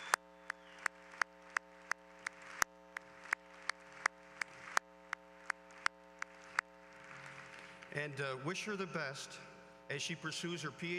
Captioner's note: applause